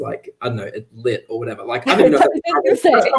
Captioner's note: all laugh